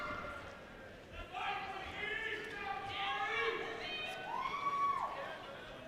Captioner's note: audience members yelling